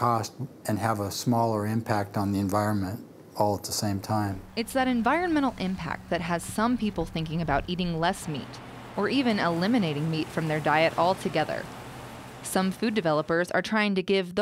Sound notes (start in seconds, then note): 4.8 voiceover